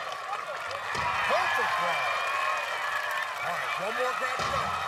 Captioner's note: cheering